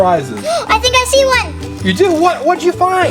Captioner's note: gasps